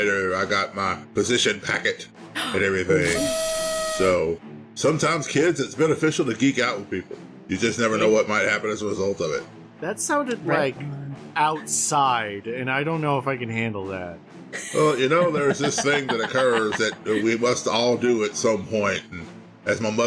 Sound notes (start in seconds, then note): 2.4 celebration noises